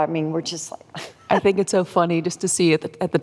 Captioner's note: laughs